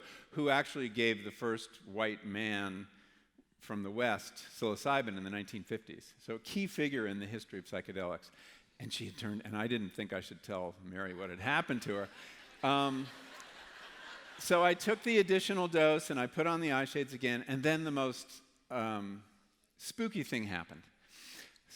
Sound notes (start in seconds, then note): 12.0 laughter